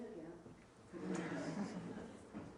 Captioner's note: laughter